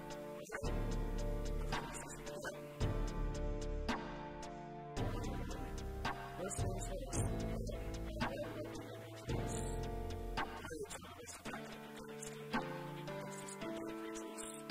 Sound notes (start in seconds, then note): 7.7 stutter; 12.0 stuttering up a storm